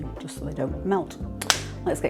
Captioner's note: clap